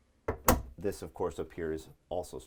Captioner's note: cabinet clicking